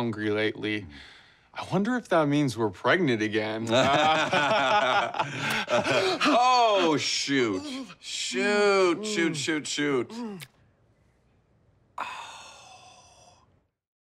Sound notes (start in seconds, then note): 3.7 both laugh; 5.3 gasps